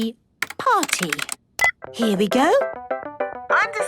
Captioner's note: beep